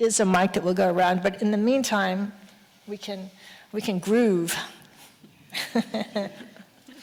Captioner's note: chuckles